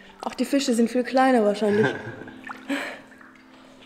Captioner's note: laughs